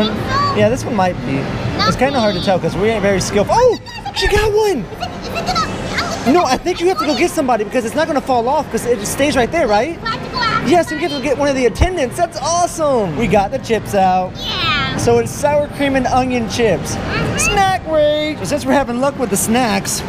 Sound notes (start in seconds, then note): 6.0 stammers